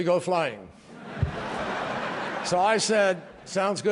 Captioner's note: laughter